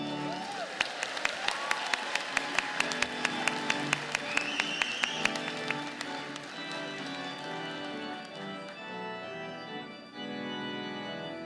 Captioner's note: applause